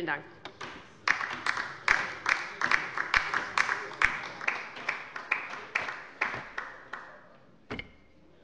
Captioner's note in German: Beifall bei der LINKEN